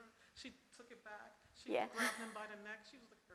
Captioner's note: laughs